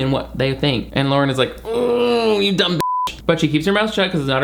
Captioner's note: beep